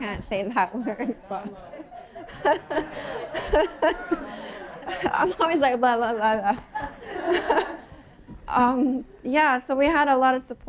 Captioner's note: laughter